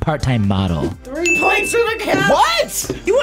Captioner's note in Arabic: قرع الجرس